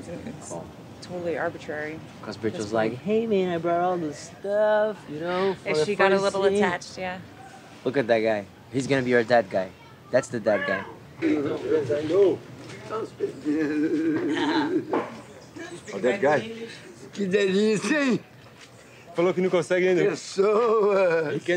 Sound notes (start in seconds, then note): 13.4 humming; 17.4 speaking in foreign language